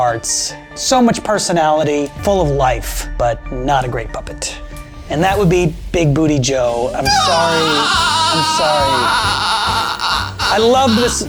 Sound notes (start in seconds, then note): 7.0 wails